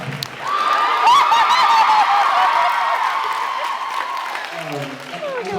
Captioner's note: laughs, cheers, applauds